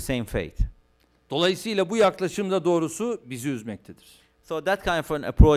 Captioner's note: non-english speech